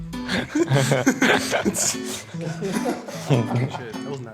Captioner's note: group laughing